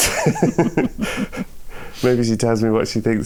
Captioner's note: laughter